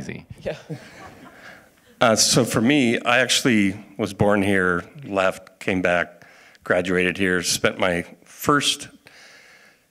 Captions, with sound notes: I like to say, I heard scientists. (audience laughing) And that's not easy. - Yeah. - So for me, I actually was born here, left, came back,